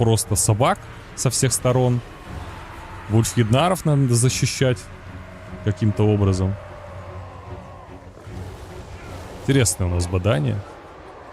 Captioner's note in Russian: стон